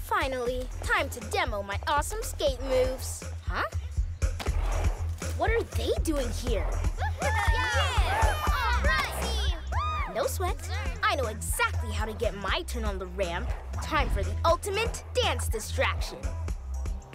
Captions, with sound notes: Finally. Time to demo my awesome skate moves. Huh? What are they doing here? (Laughter and cheering) - All right! - No sweat. I know exactly how to get my turn on the ramp. Time for the ultimate dance distraction!